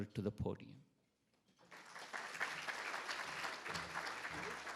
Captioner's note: attendees applauding